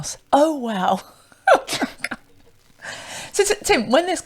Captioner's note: laughs